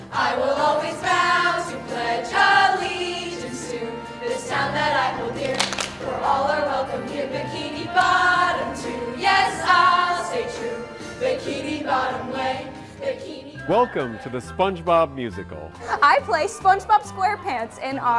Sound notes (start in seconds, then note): 5.4 clapping